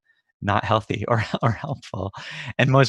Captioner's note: laughs